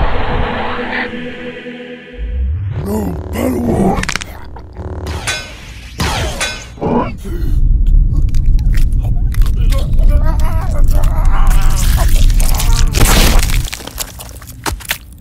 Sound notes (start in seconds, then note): 4.0 cracked Neck; 10.5 bones Cracking